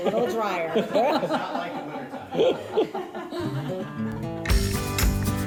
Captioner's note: laughter; upbeat music